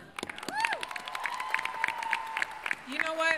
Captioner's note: applause